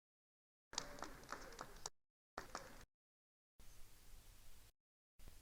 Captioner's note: attendees applauding